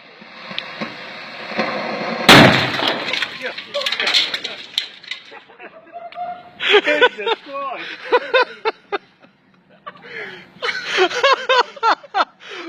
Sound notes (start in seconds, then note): 0.1 explosion; 3.4 laughter